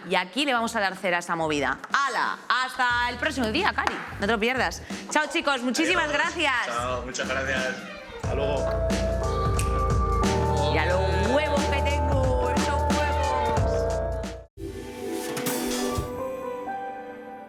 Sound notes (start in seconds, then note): 11.1 vulgar tone